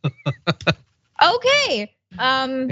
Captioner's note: laugh